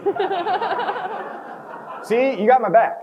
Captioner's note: crowd chuckles